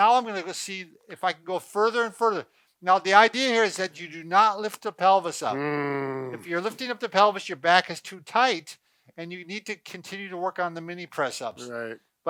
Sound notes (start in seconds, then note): 5.5 grunts